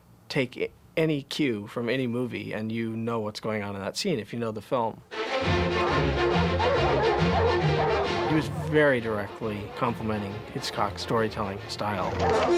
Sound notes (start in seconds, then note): 5.4 dogs barking